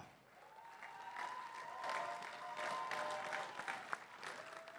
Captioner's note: crowd cheering and applauding